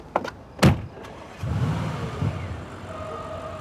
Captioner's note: engine turns over